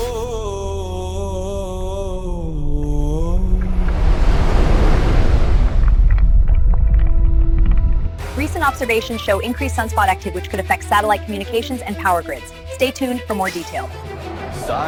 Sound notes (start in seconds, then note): 0.0 eerie, painful vocal music; 3.4 wind-like whoosh as the sun moves; 5.6 footstep-like sounds